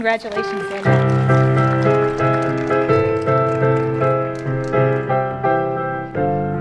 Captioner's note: applause and ♬♬ piano ♬♬